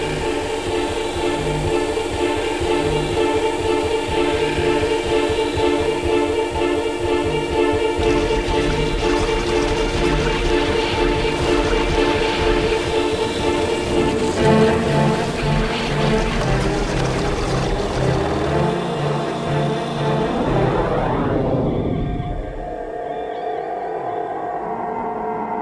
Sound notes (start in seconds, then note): 0.2 tense ominous music continues; 8.5 liquid whooshing; 22.2 tense ambient music